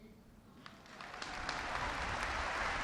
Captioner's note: applause